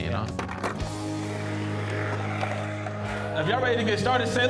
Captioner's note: skateboard grinding